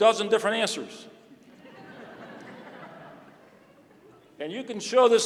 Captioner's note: laughter